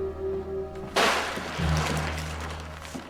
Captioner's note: plastic rustling